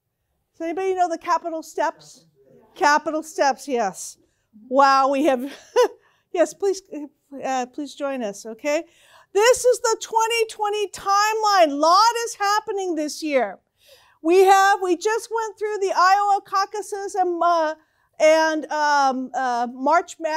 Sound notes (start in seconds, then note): 6.0 chuckles